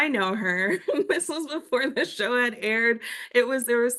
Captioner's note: laugh